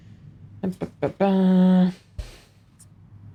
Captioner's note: humming